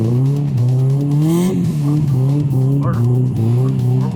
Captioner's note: laughing